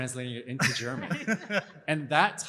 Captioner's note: laughter